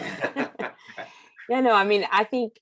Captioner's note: laugh